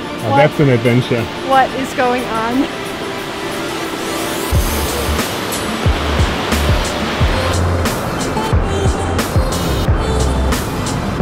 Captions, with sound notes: - Now that's an adventure. - What is going on? (ambient music) (water rushing)